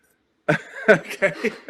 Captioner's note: laughs